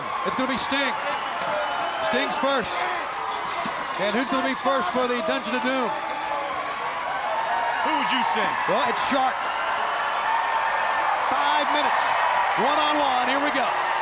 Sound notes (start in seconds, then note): 2.6 chain fence rattling; 9.7 crowd cheering